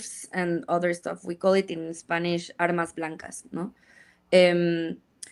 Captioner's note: speaks in Spanish